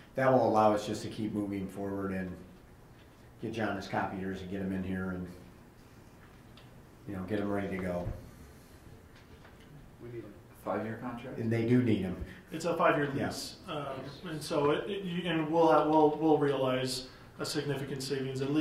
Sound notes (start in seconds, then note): none